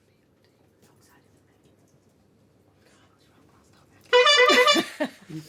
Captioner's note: whispering; buzzing